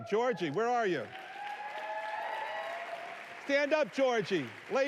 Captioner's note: applause